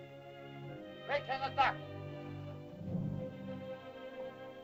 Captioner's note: Loana speaks in caveman language; Tumak speaks in caveman language; melancholy music